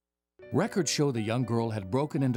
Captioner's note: voiceover